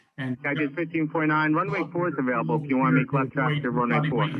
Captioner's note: men chattering